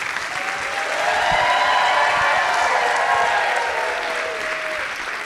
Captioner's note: audience cheering